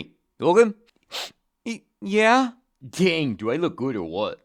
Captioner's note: sniff